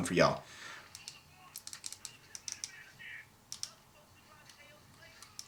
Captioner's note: button tapping